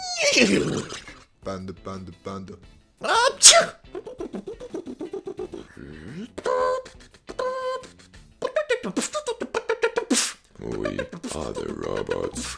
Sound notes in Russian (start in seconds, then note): 3.1 Панда, чихает; 5.3 Звуки робота